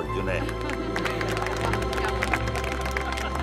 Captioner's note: All clapping